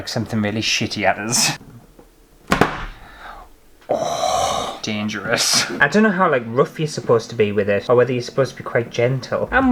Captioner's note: bang!